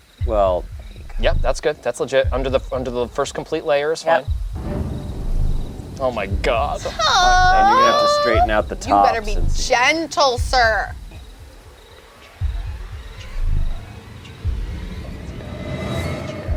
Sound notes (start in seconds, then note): 4.4 dramatic music; 6.9 whines; 11.8 suspenseful music